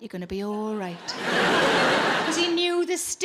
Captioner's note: audience laughing